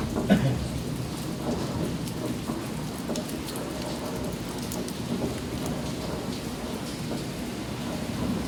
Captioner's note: water pattering in shaft